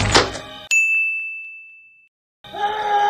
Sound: terrifying ding; screaming

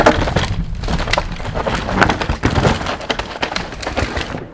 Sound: bike crunching dirt

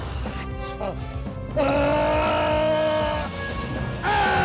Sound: grunts

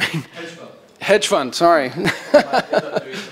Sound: laughs

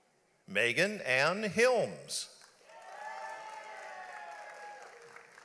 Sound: audience applauds

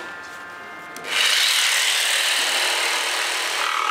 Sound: electrical whirring

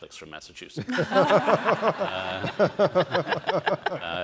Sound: all laugh

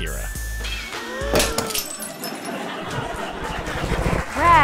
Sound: lamp crashes

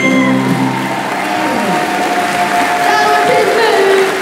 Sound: applause

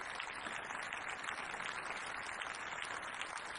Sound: applause

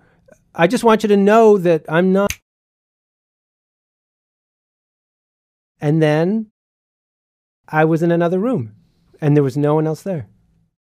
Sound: fingers snap

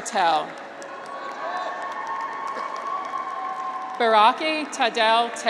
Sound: graduates cheer

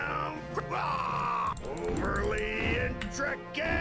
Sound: rapid clicking

